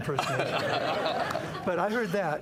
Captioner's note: laughter